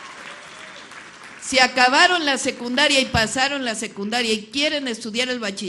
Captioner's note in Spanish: aplausos